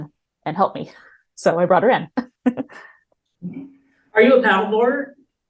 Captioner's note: chuckles